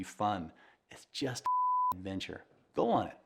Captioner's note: beep